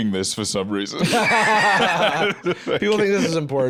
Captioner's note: both laughing